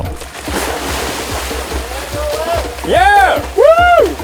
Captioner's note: splashing